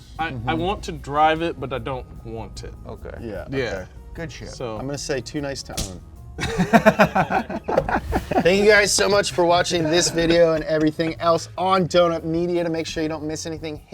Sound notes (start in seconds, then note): 5.7 punch thuds; 6.4 both laughing; 7.8 air whooshing